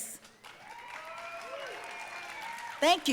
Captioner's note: audience cheering and applauding